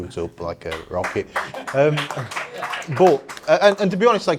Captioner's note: attendees clapping